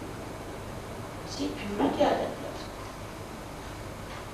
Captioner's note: hindi